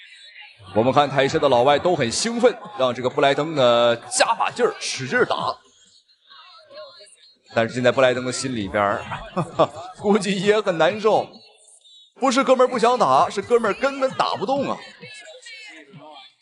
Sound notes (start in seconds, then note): 8.3 ha ha